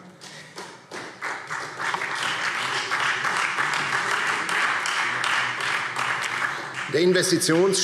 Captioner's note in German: Beifall Freie Demokraten, SPD und DIE LINKE